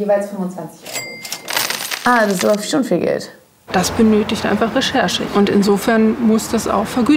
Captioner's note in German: Kaching